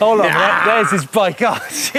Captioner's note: yells